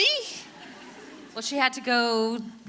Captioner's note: audience laughing